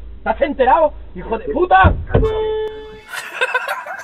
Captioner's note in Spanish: claxon